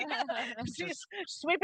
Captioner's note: group laughing